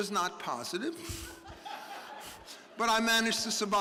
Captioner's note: audience laughing